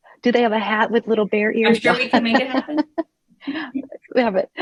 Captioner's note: laughs